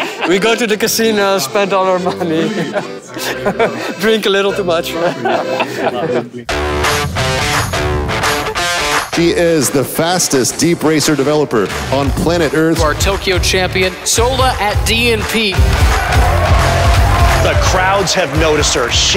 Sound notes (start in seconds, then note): 0.0 laughs; 6.6 upbeat rock guitar music; 15.7 audience cheers and applauds